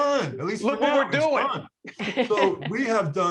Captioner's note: laughing